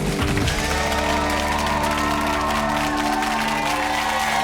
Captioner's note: audience cheering